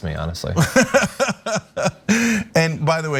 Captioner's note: laugh